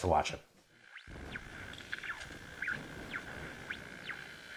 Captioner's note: static sound